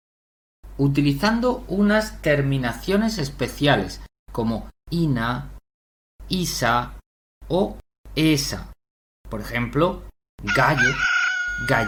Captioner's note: rooster